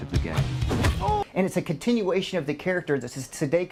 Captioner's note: groans in pain